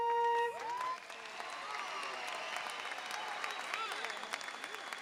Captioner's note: audience cheers